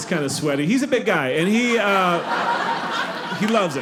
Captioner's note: audience laughing